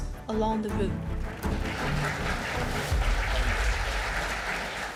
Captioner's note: audience applauding